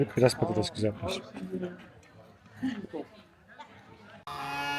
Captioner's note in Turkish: kahkaha